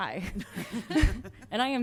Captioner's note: laughter